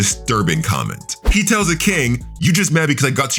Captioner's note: air whooshing